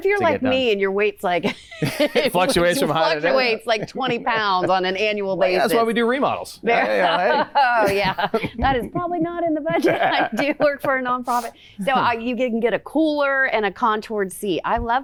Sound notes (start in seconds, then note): 6.8 laughing